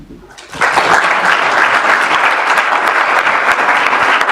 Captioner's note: applause